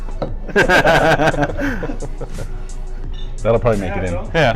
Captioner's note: laughter